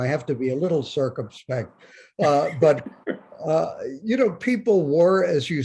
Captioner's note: Bob laughs